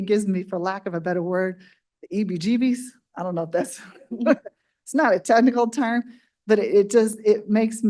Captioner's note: laughs